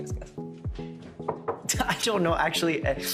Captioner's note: knocking on table